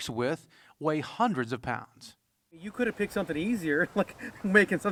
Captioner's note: laughing